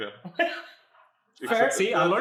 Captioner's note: laughs